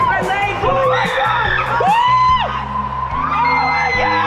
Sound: screaming

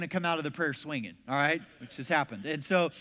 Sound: congregation laughs

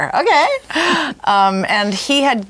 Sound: chuckles

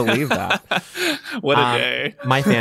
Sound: laughing

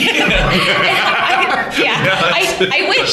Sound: laughter

